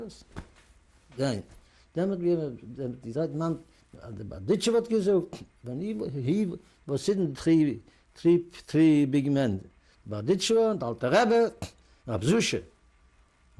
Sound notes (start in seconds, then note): 4.6 non-english speech; 10.0 non-english